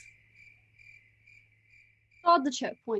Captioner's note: crickets chirping